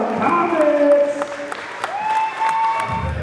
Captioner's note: audience applauds